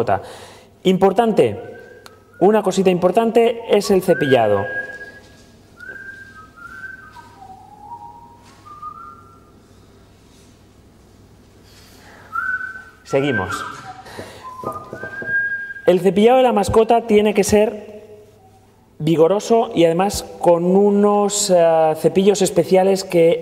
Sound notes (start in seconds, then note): 5.7 whistling